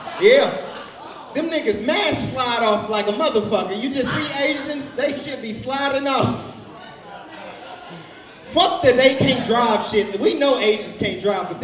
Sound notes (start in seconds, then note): 0.0 audience laughs; 6.6 audience laughs; 6.7 laughs